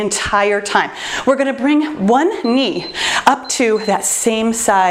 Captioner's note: timer beeps